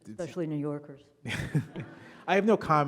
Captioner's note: audience laughing